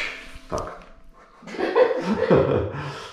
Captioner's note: laughs